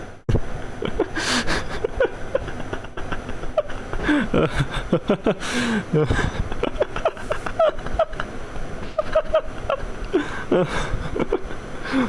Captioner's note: laughter